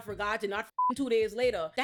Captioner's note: beep